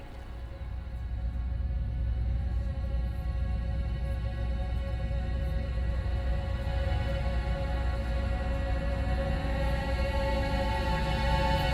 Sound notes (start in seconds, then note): 0.1 ominous music; 3.2 faint whispering